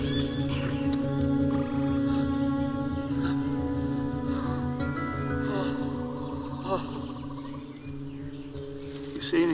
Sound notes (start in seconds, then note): 1.3 gasps, Breathes Heavily